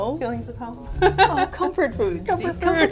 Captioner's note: laughs